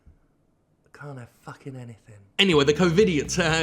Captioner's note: whispers